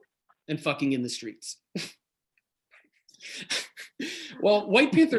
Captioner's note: laughs